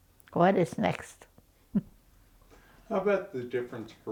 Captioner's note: chuckles